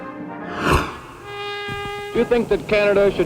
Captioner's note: horn